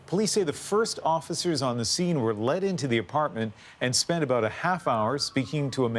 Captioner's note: sirens